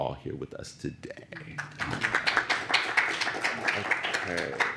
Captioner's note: applause